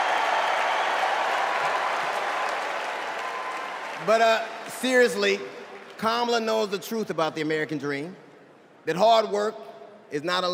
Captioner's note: applause